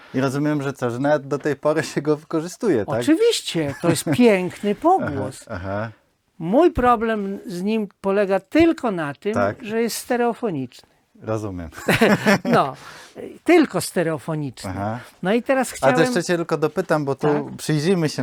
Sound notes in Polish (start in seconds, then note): 11.7 śmiech